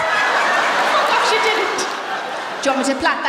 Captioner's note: laughter